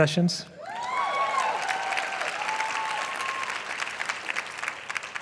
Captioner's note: applause